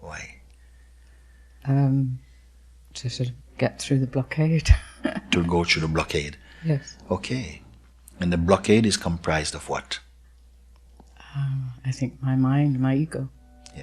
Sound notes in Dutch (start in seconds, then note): 4.9 gelach